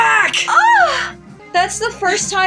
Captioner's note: swoon